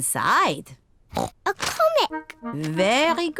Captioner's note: oinks